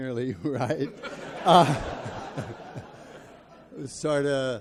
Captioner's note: audience laughs